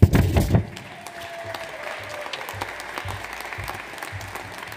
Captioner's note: audience applauds